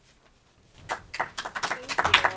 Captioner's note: audience applauding